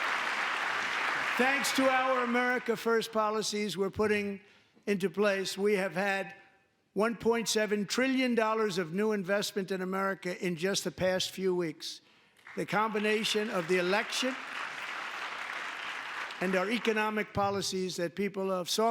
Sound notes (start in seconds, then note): 0.0 applause; 12.4 applause